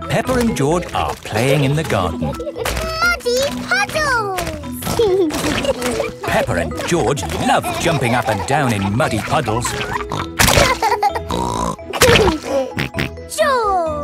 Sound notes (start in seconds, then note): 10.6 laughs and snorts